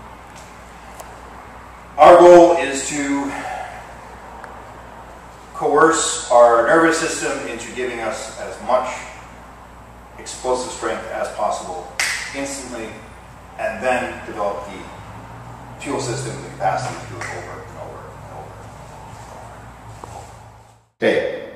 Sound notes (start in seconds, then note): 12.0 finger snap!